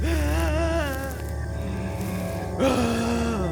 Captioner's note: wailing